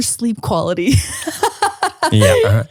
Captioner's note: laughing